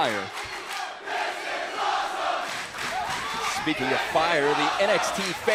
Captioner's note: crowd cheering